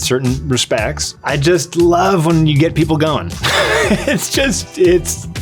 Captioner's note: laughs